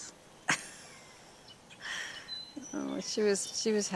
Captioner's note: laughs